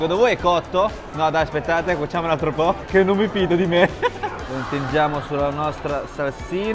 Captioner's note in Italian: risate